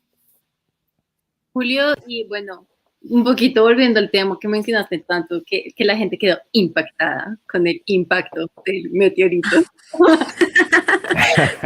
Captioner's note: laughs